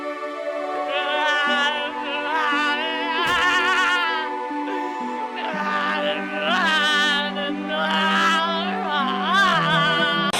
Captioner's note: unintelligible wailing